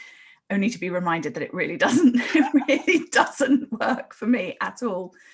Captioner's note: both laugh